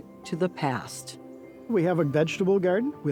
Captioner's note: none